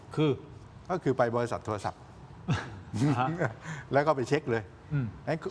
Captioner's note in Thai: เสียงหัวเราะ